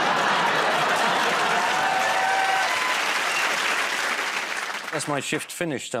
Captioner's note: laughter